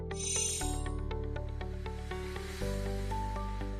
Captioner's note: chimes tinkling